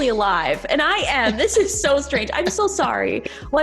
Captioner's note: chuckling